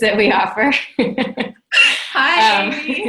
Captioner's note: laughs